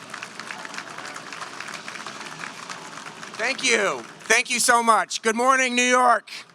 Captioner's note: applause